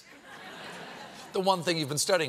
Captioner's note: laughter